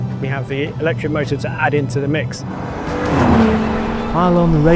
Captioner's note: vehicle revs